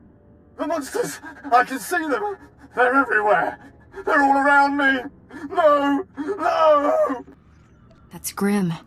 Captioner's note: cries